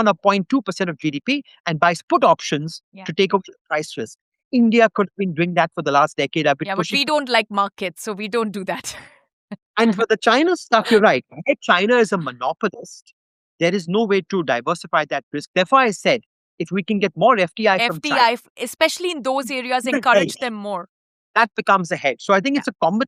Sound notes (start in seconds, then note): 9.8 chuckles